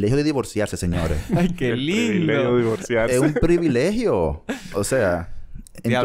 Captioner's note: laughs